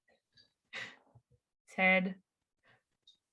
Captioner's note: chuckles